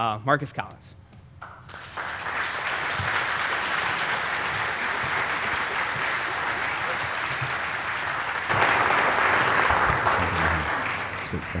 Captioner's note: applause